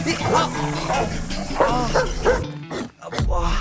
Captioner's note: shouting in pain